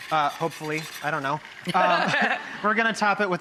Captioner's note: laughing